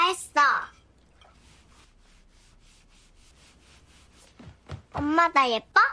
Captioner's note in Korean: 테이블 닦는 소리